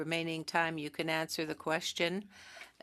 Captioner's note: speaking French